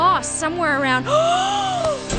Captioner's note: gasp